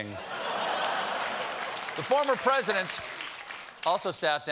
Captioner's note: laughter; applause